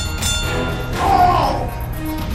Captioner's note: cries in Scottish